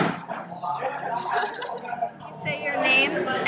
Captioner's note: laughter